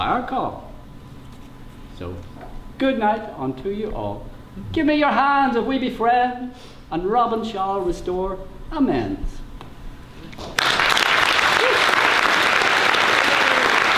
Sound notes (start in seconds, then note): 10.5 applause